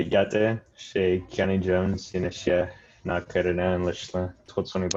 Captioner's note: speaking foreign language